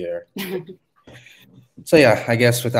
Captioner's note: laughs